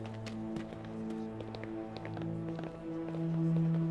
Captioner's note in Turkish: Ayak sesi